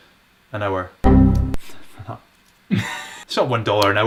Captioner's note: computer error beeping